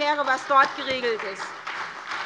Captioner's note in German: Beifall bei der SPD, der LINKEN und bei Abgeordneten der FDP